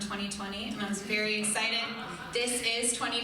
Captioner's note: crowd laughing